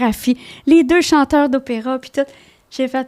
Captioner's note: in french